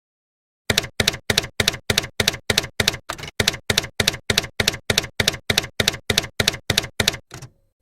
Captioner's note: typewriter keys clacking